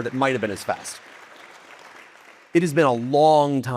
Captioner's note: audience applauding